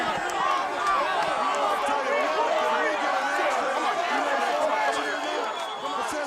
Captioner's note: crowd cheering